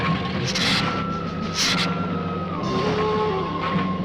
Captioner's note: lizard hissing